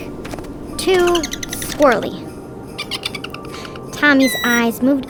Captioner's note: footsteps plodding; squirrel chirping